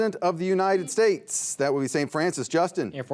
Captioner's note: buzzer beeps